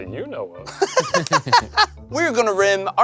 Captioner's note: laughing